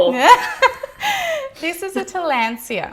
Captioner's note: laughs